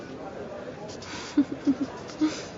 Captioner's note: chuckles